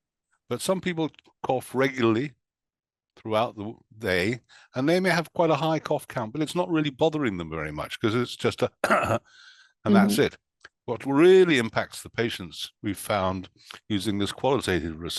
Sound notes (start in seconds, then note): 8.8 cough cough